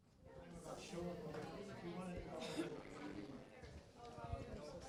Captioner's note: people talking